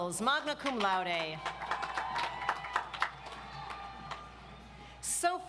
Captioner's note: audience applauds